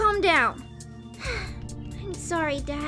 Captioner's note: sighs